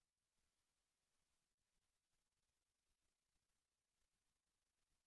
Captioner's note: none